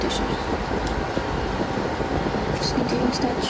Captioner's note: audio distorted by wind